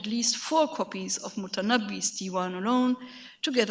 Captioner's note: speaks in a foreign language